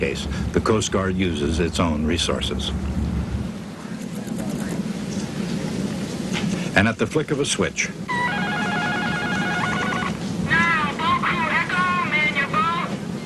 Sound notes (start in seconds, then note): 8.1 beeping